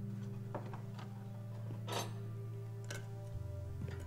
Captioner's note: utensils clattering